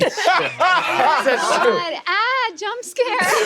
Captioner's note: laughs